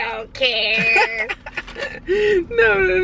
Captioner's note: laughter